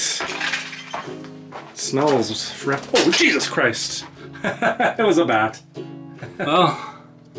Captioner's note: laughs